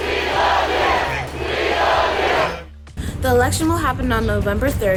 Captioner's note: chanting